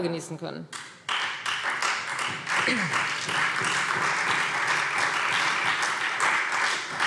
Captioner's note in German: Beifall Freie Demokraten und vereinzelt CDU